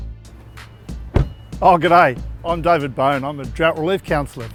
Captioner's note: door slams